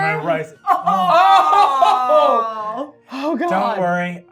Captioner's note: scared laughing